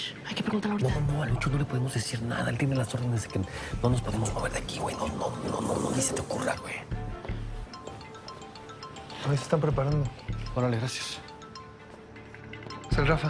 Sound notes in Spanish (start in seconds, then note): 6.2 Suena un celular